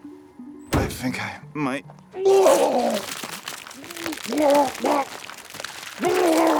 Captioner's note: retches; Walter retching